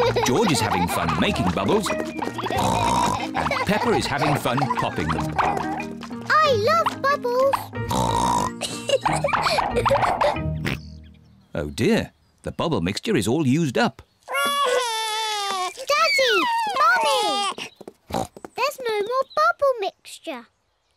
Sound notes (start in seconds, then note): 2.4 oinks; 7.8 oinks and giggles; 10.6 oinks; 14.3 wails; 18.1 oinks